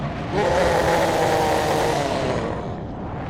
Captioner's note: roars